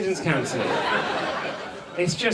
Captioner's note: audience laughs